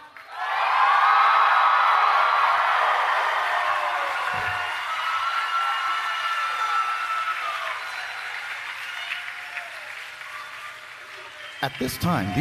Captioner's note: applause